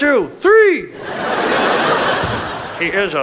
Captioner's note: audience laughs